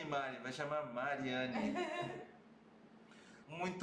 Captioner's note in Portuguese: risos